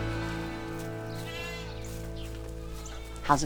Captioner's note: goats bleating